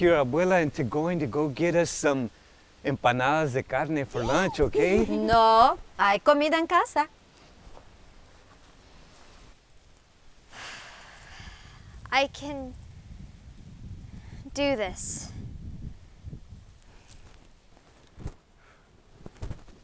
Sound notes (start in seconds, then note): 4.2 Ana chuckling; 11.2 wind gushing